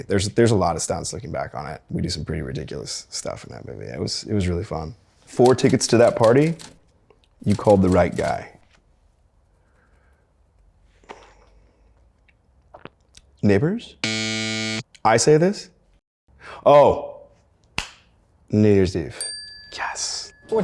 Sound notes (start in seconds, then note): 14.0 buzzer blares; 19.2 bell dings